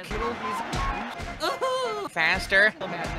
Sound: wailing

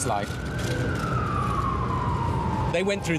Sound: sirens wailing

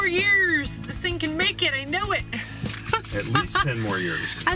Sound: laughs

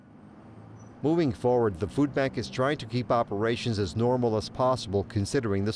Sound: car engines growling faintly

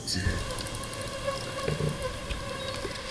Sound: beeping

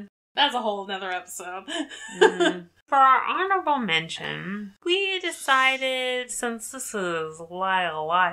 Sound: laughs

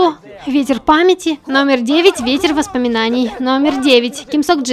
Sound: hurried

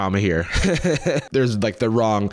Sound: laughs

